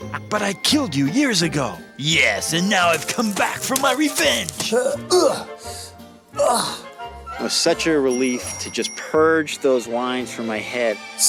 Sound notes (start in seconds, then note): 0.0 laughing menacingly; 3.6 grunting